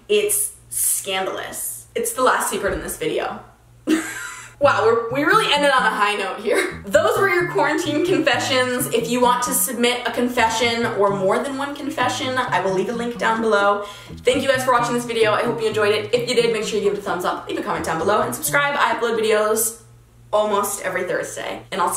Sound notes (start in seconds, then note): 3.9 laughing